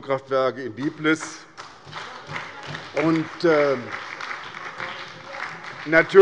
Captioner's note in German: Beifall bei der SPD und dem BÜNDNIS 90/DIE GRÜNEN